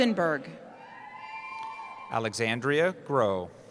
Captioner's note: cheering